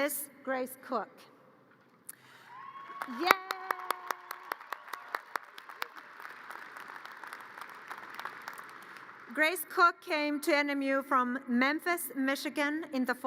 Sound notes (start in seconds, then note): 2.4 audience cheers and applause